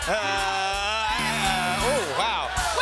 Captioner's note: buzzer